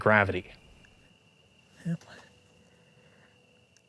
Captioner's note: light hum of cricket chirps